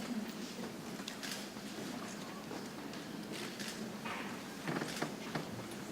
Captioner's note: people chattering softly